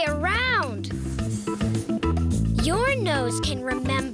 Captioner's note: whooshing sound